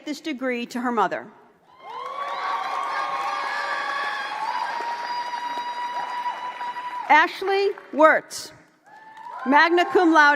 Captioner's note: applause